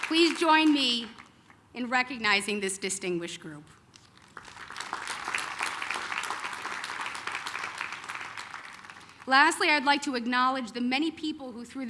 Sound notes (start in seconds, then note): 4.1 applause